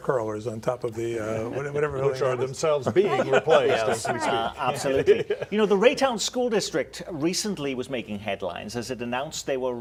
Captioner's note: laughter